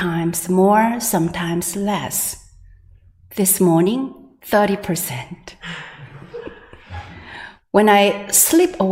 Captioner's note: laughter